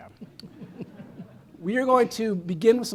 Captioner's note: chuckling